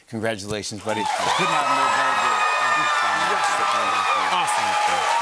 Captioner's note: cheers and applause